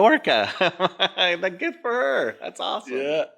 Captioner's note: laughs